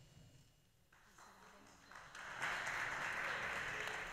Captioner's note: applause